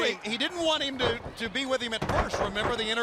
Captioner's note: crowd chatter